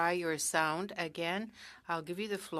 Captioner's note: speaking french